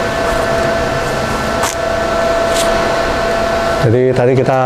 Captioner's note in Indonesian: suara tarikan PET film